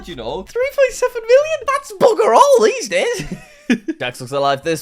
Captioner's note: laughs